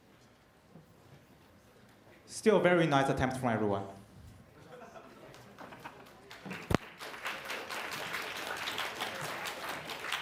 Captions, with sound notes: Still very nice attempt from everyone. [APPLAUSE]